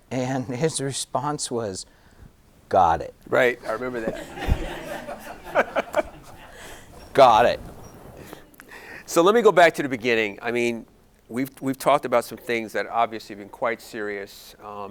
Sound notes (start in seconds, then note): 3.6 audience laughing